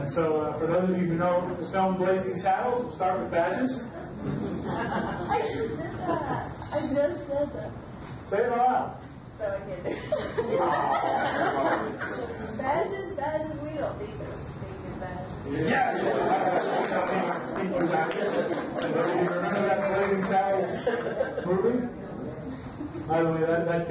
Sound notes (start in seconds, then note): 4.8 overlapping chatter; 18.8 audience lightly applause